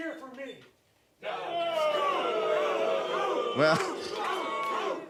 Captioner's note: audience boos